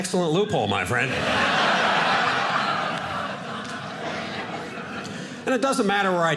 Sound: audience laughing

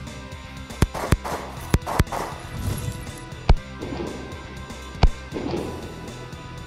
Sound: gunfire

